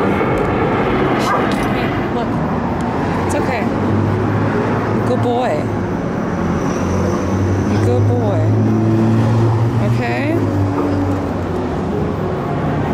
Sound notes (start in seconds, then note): none